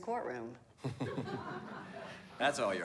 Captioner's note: laughter